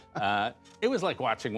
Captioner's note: laughter